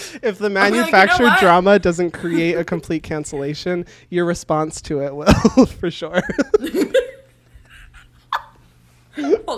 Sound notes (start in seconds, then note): 6.1 both laugh